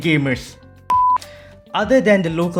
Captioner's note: beep